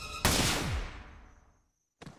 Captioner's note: gun fires